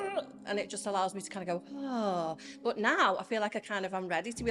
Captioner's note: haa